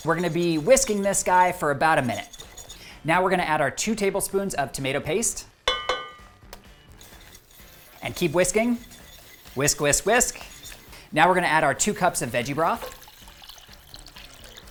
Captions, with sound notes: We're gonna be whisking this guy for about a minute. Now we're gonna add our two tablespoons of tomato paste. (bowl clanking) And keep whisking. Whisk, whisk, whisk. Now we're gonna add our two cups of veggie broth.